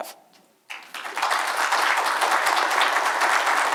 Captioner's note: applause